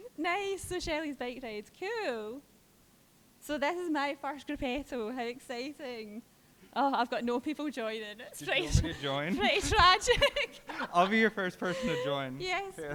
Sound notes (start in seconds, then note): 8.4 laughing